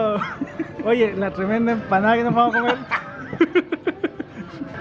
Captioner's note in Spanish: risas